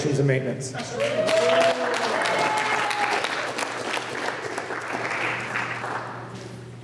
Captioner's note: applause